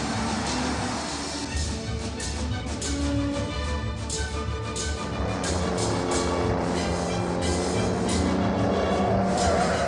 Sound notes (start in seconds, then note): 5.3 car racing sounds and music